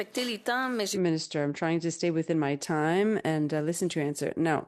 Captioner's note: speaking in French